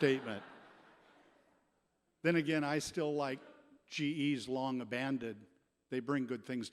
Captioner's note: laughter